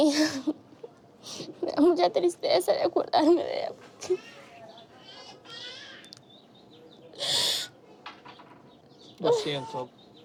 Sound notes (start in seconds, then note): 2.3 crying; 5.9 weeping softly